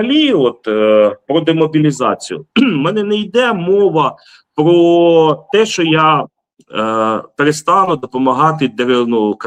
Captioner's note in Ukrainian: прочищення горла